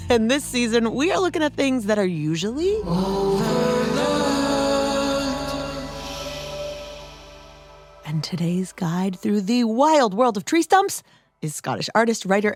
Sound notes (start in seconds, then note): 6.9 excitedly echoing, but hushed